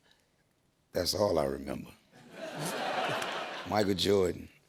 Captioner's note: laughter